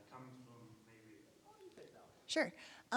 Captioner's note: speaking faintly